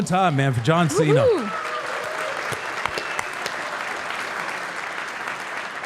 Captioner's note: audience applauding